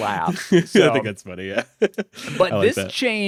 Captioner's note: laughs